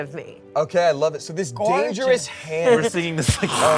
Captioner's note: growls